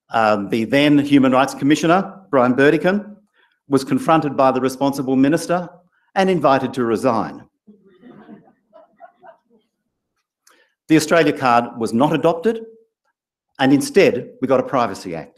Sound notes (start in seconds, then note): 7.7 laugh